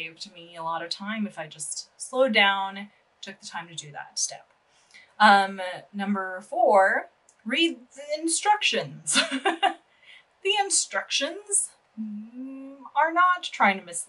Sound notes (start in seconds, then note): 9.2 abstract exasperated noise